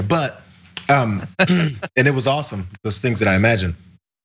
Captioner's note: laugh